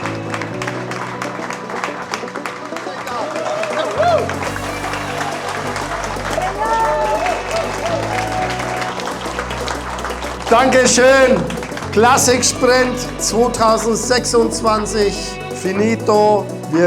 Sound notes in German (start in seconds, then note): 10.6 applaus